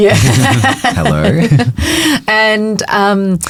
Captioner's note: both chuckling